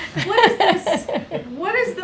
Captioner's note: laughs